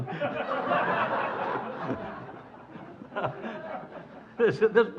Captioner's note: audience laughing